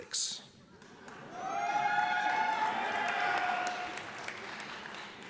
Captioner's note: audience cheers